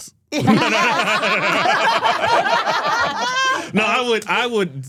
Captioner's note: all laughing